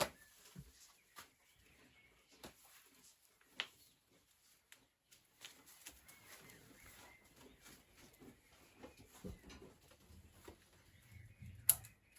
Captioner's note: rain, birdsong, evening sounds